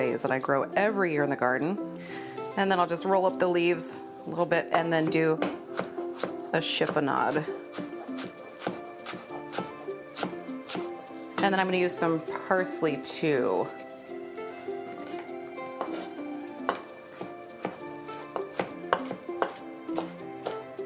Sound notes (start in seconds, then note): 8.5 knife chopping; 15.3 gentle music